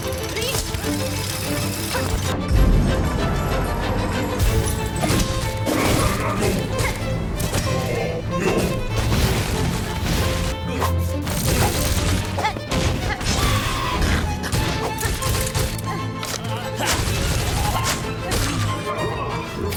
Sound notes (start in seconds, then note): 0.2 chain rattling; 7.3 thuds and grunts